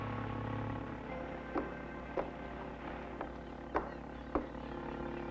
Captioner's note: none